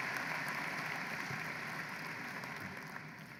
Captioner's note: applause